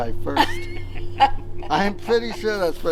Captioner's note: chuckles